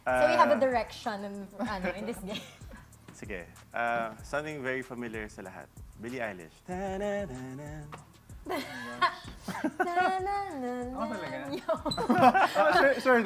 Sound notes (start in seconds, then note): 6.7 humming; 8.4 laughs; 9.7 humming; 11.5 laughter